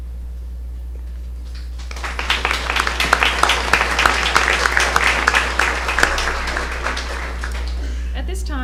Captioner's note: applause